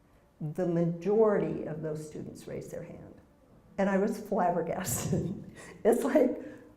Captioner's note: laugh